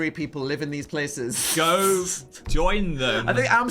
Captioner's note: chuckling